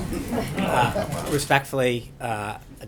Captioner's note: laughter